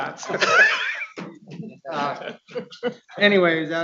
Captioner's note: people laughing